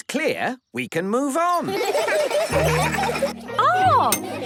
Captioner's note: laughter